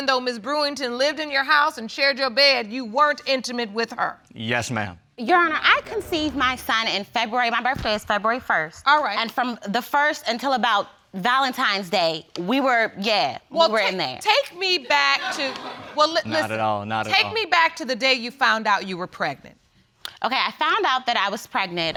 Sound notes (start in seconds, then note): 14.9 audience laughs